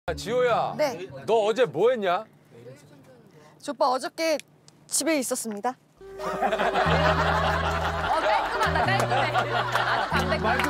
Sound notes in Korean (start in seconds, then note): 6.2 웃음소리